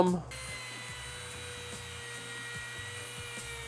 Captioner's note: whirring